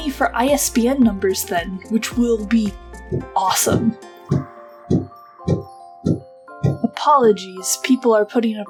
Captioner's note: hammer construction noises